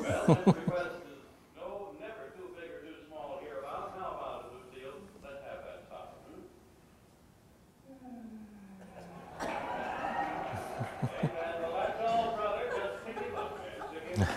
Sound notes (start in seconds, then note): 7.9 Lucille Ball sighs; 9.2 audience laughter and applause